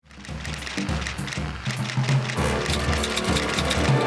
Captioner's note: keyboard clacking